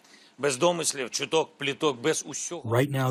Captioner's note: through translator